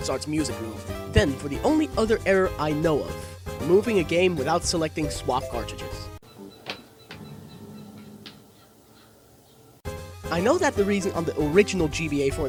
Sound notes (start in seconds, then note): 6.6 click; 7.1 Gameboy player error sound